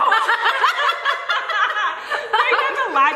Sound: both laughing

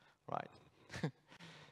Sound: chuckles

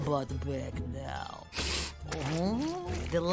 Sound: sniffing

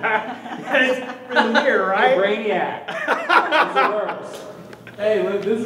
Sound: laughing

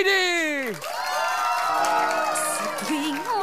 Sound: all cheering

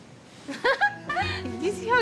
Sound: laughs

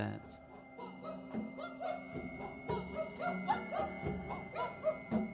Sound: animal-like calls

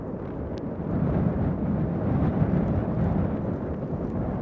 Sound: blowing wind

